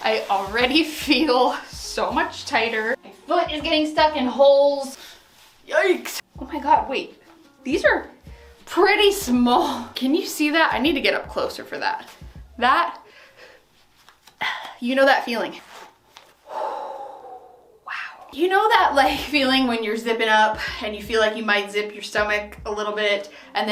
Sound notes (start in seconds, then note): 14.5 grunts; 16.4 exhales